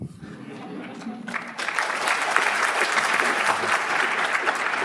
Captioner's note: audience laughs; audience applauds